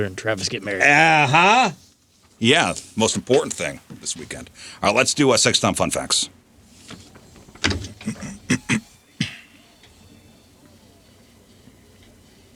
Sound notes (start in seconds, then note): 6.3 clears throat; 12.0 silence